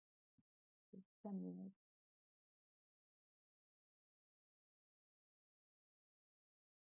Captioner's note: speaks softly in Portuguese